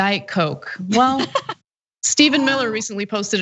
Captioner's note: laugh